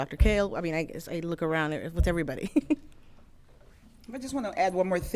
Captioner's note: giggles